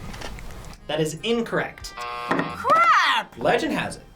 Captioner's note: buzzer rings